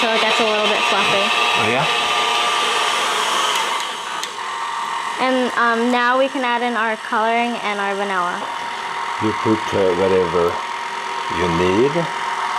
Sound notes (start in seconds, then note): 2.7 whirring continues